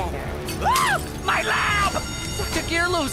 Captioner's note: shrieks; alarm